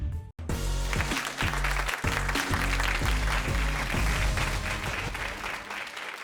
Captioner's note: upbeat music; audience clapping